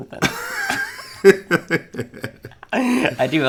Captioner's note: laughing